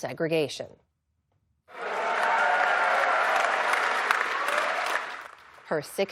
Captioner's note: cheering